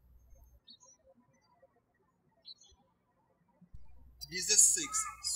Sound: birds chirping

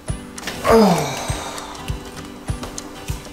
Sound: sighs

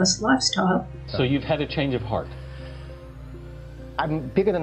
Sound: sighs

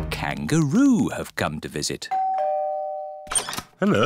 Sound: doorbell rings

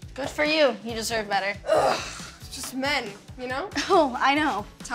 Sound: groans

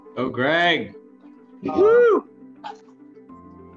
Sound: cheering

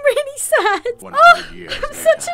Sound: crying

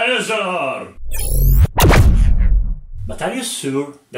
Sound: laser sound

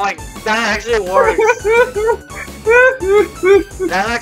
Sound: laughs

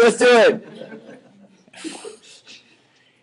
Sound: students laughing

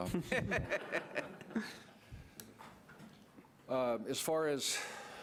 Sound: audience laughs

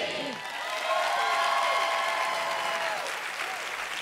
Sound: cheers and applause

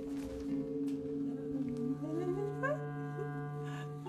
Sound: birdie humming; continues humming

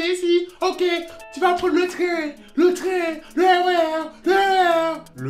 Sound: with West Indian accent

